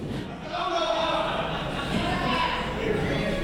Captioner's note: fan yelling